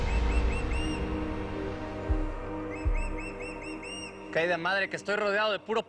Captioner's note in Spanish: Graznidos